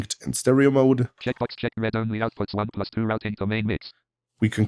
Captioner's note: automated voice